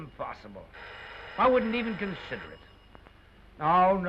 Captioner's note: phone rings